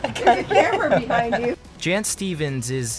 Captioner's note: laughs